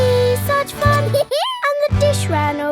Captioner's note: dog laughs